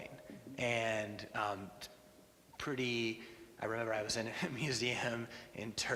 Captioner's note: laughs